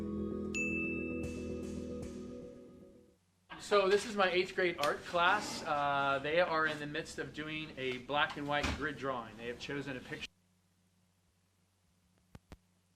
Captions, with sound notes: (bell dinging) - So this is my eighth grade art class. They are in the midst of doing a black and white grid drawing. They have chosen a.